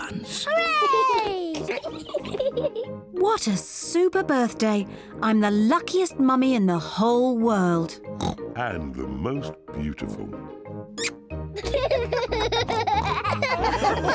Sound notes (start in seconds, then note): 1.6 both giggling; 8.1 oinks; 11.6 both giggle; 13.8 all laugh